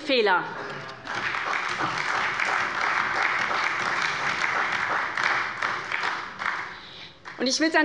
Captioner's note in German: Beifall bei der SPD